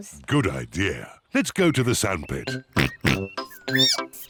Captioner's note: oinks; squeaks